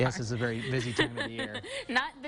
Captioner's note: laughing